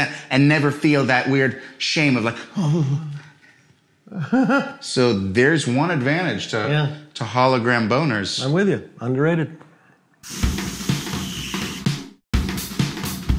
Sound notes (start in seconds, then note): 4.0 laughing; 10.2 upbeat drum music